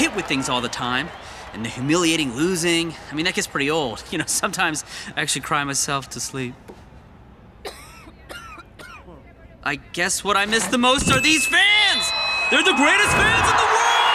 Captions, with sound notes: all the time and the humiliating losing. I mean, that gets pretty old. You know, sometimes I actually cry myself to sleep. [coughing] I guess what I miss the most are these fans! They're the greatest fans in the world!